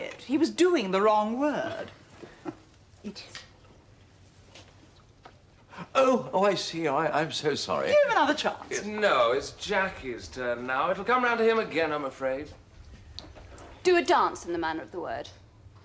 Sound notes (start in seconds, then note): 3.3 JUDITH whispers to him